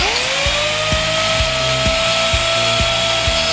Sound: saw buzzing

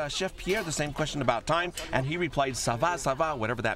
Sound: non-english speech

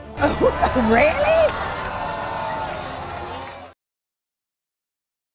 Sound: audience jeering

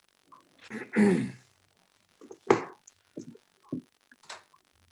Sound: clearing throat

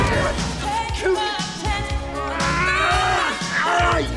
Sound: grunting

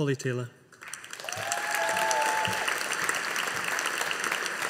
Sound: audience applauding

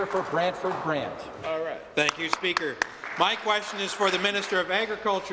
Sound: applause

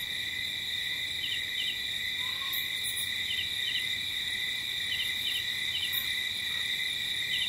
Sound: light jungle ambience

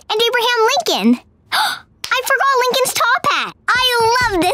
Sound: gasping

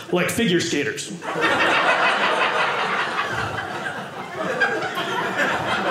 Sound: audience laughing

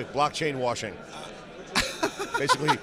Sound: laughs

